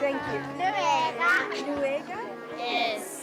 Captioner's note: children speaking in native language